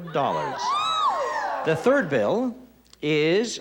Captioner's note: excited shout